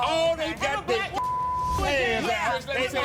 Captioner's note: beep; angry chatter